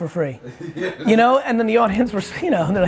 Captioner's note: laughing